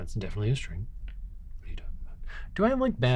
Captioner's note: whispers